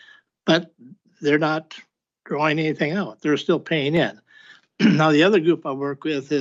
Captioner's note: clears throat